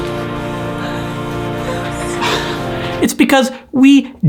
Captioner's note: sobs